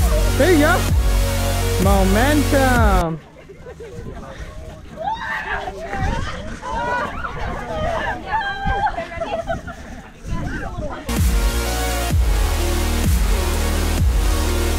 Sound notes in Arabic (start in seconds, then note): 5.3 صراخ مرح; 8.1 يضحك; 11.1 موسيقى إلكترونية مبهجة